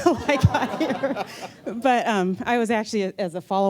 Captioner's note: laughter